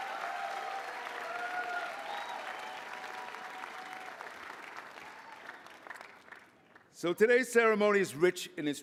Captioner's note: applause